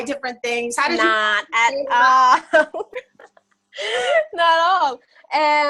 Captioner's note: laughs